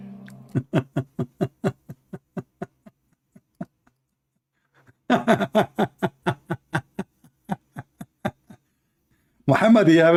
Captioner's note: Ketawa